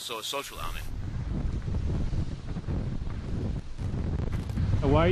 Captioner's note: wind blowing